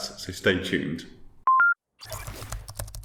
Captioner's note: tech beep; typing